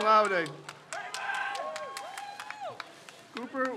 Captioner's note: crowd cheers